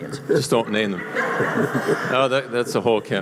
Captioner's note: voiceover